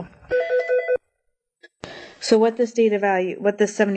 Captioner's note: phone rings